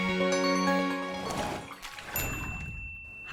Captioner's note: gentle music; splashing; bell tinkle